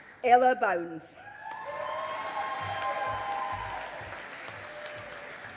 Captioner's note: audience applauding